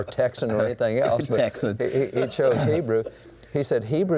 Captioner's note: laughs